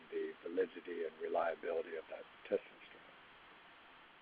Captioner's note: faintly speaking